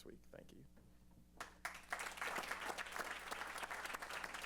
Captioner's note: applause